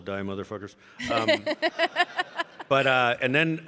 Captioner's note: laughs